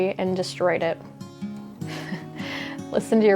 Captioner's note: chuckling